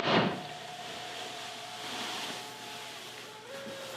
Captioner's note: shoes thud